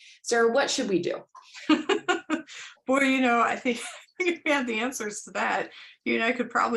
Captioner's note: laughter